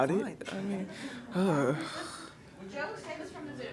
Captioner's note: groans annoyingly